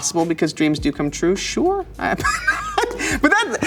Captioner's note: laughs